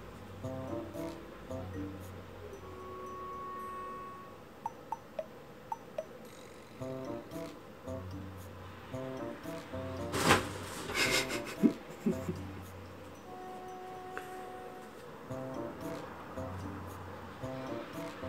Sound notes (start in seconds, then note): 13.4 laughs